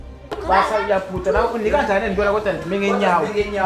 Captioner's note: speaking in foreign language